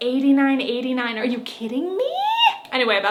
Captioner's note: exclaims